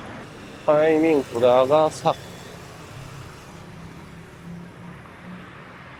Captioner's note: whoosh